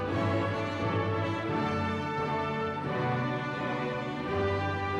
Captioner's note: none